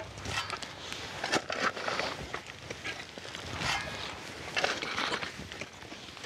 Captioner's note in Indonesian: digging sounds